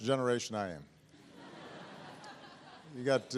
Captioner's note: laughter